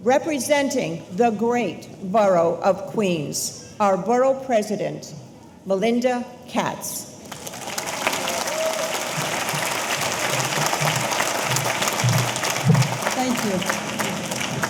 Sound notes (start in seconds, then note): 7.2 audience applauding; 7.3 audience cheering